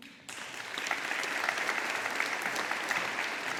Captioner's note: audience applauding